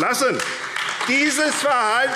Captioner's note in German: Beifall AfD